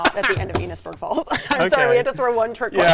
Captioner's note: laughing